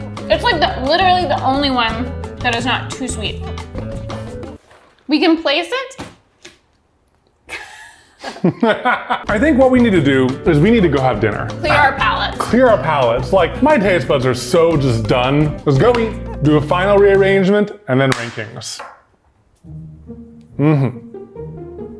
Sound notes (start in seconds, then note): 6.0 box thunks; 7.4 both laugh